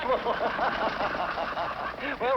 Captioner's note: laughs